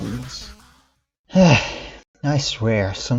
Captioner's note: sigh